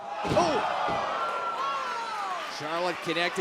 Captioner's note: crowd cheering